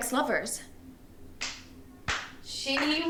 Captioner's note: Maisie clapping